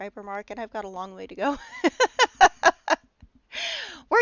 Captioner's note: laughing